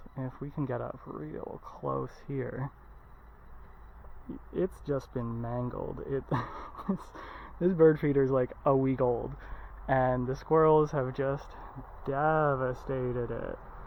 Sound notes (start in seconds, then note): 6.2 laughs